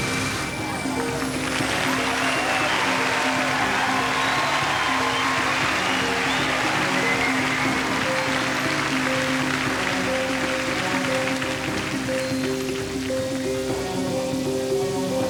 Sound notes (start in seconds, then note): 1.0 applause